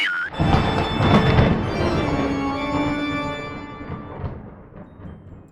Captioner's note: thunderclap